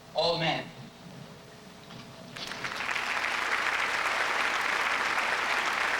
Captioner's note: applause